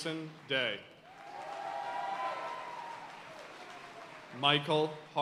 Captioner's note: audience cheering and applauding